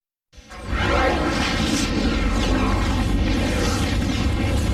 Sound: dramatic twister and helicopter sounds

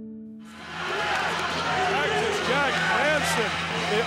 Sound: crowd cheering

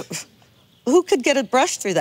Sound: stuttering

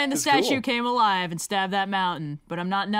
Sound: laughs

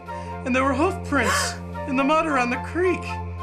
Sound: gasping

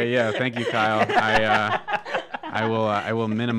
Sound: hosts laugh

